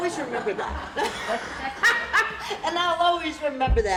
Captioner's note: laughter